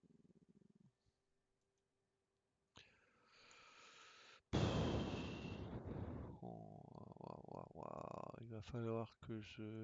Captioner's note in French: soupir